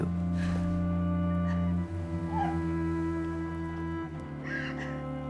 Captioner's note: crying